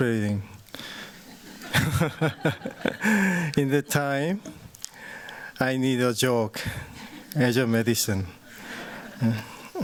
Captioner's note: laughter